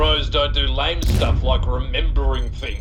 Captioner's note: boom!